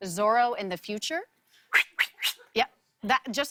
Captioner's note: whooshes